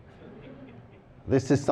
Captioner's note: laughter